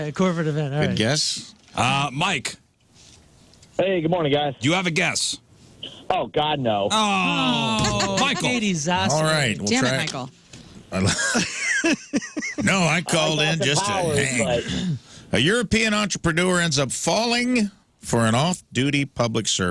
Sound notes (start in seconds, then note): 11.0 laughing